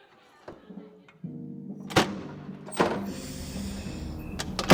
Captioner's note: heavy door w/crash bar opens and shuts, distant nighttime street noises; deep inhale